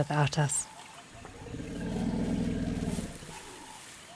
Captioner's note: rumbling